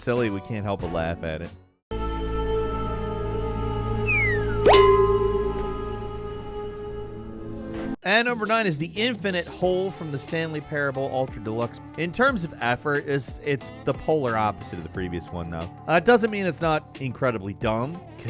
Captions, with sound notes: we can't help but laugh at it. (mysterious music) (coconut whistling) (coconut clangs) And number nine is the infinite hole from "The Stanley Parable: Ultra Deluxe." In terms of effort, it's the polar opposite of the previous one, though. It doesn't mean it's not incredibly dumb,